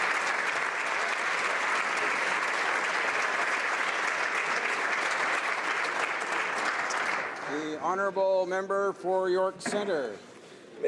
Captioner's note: applause